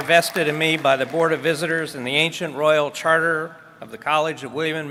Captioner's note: applause